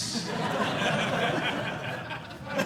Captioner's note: audience laughing